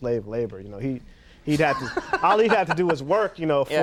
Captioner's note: Conan laughs